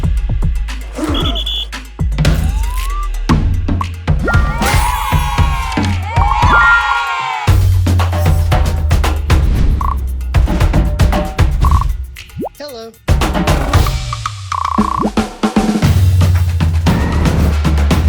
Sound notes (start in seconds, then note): 0.9 howling football team; 4.2 children cheering; 10.3 loud drum rolls